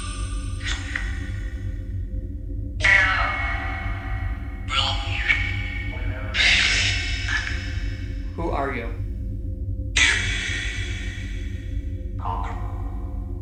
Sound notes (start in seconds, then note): 0.9 chanting; 9.9 chanting